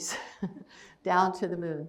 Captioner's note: chuckles